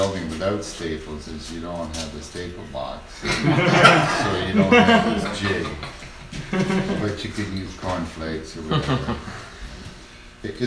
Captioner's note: laughter